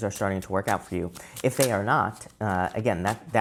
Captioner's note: cards shuffling